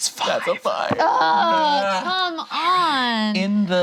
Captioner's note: group groans